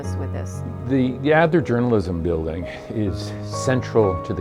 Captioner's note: voiceover